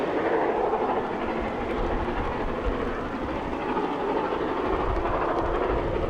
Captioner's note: train passing